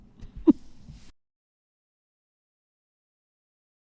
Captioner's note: chuckles